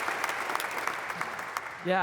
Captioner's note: applause